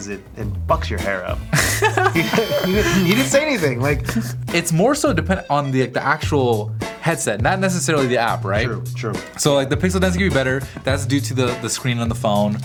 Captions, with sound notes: is that it fucks your hair up. (laughter) - [Voiceover] You didn't say anything. It's more so dependent on the actual headset, not necessarily the app right? - True, true. - So the pixel does need to be better, that's due to the screen on the phone.